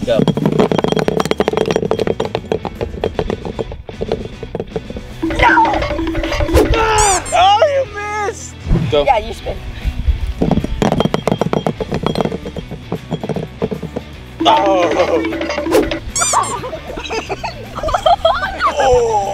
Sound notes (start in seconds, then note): 5.2 timer counting down; 7.1 squeak; 14.4 timer counting down; 16.0 squeak; 16.2 laughs